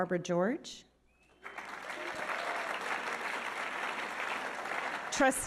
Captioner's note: audience applauding